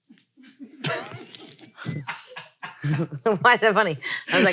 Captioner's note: laughs